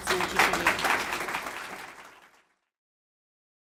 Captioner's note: clapping